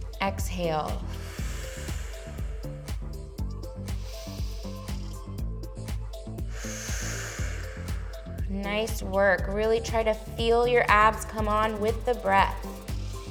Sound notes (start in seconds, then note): 0.0 inhales; 1.0 exhales; 3.9 inhales; 6.4 exhales; 12.9 inhales